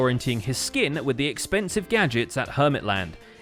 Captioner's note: none